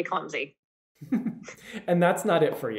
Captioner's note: chuckles